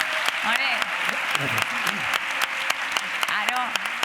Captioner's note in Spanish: Aplausos